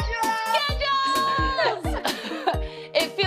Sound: laughs

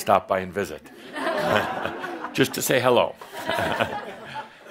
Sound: some chuckles

